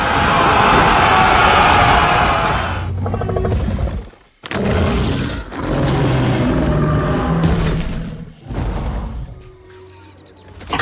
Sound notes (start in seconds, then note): 0.0 roaring of the infantry swelling; 2.6 guttural reptilian grumbling and roaring